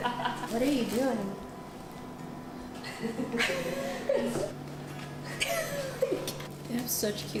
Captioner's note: chuckles